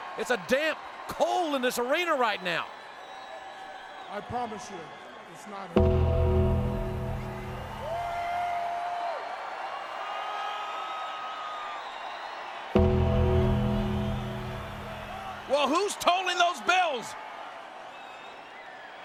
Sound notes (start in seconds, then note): 5.7 ominous music; 7.8 audience cheers